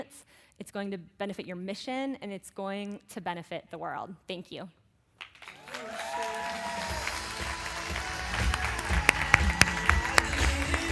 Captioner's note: applause